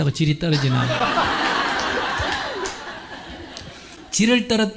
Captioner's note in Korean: 질문자와 청중 웃음